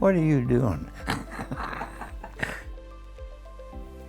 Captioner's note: laughter